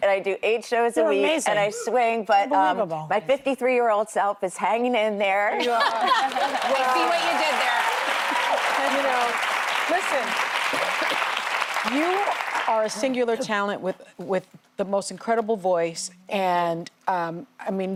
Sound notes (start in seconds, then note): 9.0 applause